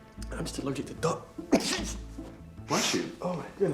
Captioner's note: sneeze